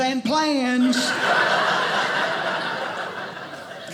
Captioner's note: audience laughing